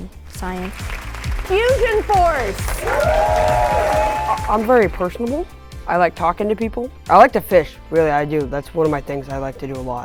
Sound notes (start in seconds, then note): 0.6 crowd cheering